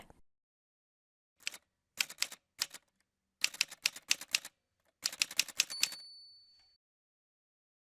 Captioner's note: typewriter sounds